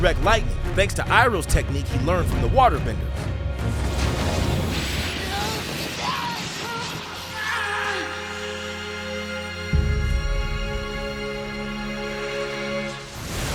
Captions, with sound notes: thanks to Iroh's technique he learned from the waterbender. [groaning]